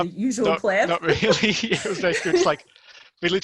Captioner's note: laughing